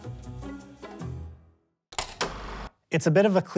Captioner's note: upbeat music; film reel clicks